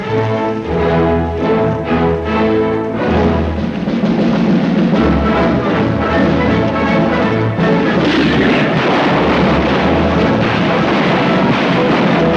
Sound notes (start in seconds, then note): 0.2 dramatic instrumental music; 7.9 rifles firing